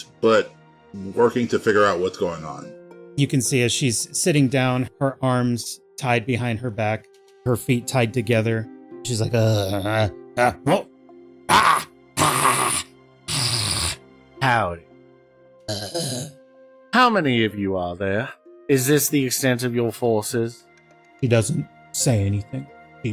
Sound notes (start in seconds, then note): 12.2 surprised Kobold noises; 13.3 hissing